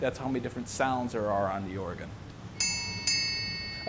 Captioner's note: bell chiming